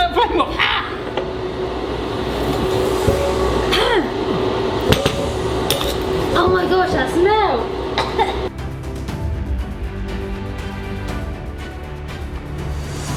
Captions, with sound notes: - Turn that up one more, ah. - Oh my gosh, that smell (coughs). (dramatic suspense music)